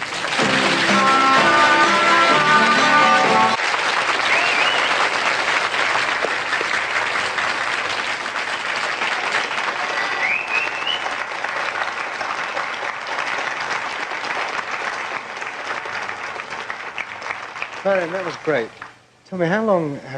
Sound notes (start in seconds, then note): 0.3 applause; 3.6 applause and whistling